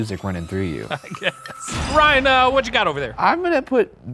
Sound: laughs

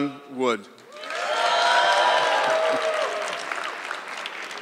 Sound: audience clapping

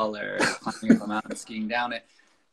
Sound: laughs

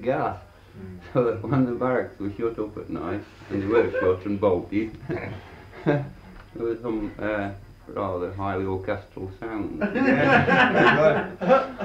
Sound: laughter

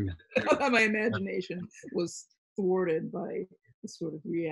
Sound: laughing

